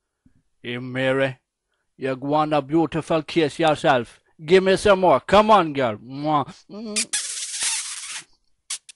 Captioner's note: sound of kiss